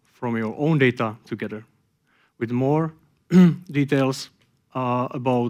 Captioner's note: clears throat